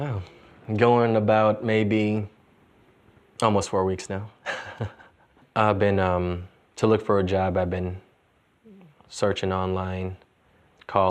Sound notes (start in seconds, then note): 4.4 chuckles softly